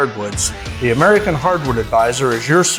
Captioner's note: tool grinding intermittently